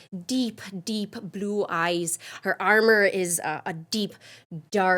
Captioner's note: none